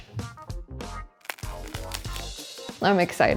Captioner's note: bread crunching